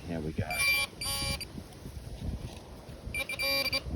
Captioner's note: beep beep